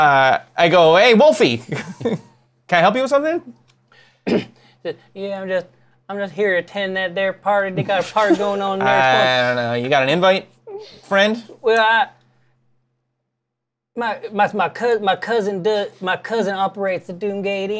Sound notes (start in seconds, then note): 4.0 slurred Southern drawl in gentle voice